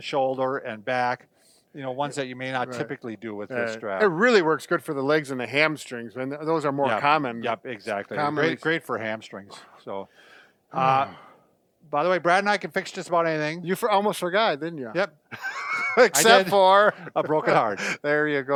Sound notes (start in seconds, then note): 15.3 laughing